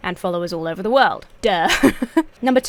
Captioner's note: laughs